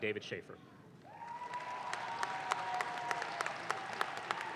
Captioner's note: audience claps